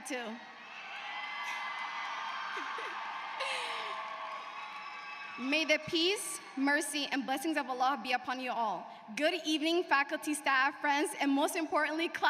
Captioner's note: speaking native tongue